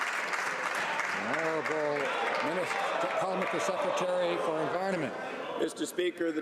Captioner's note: some Applause